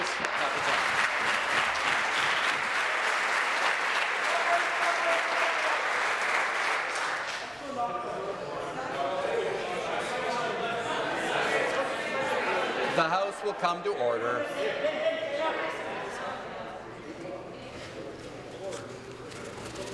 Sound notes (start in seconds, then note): 5.4 applause